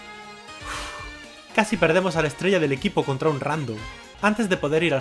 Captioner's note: sigh